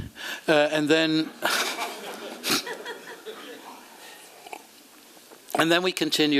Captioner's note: laughter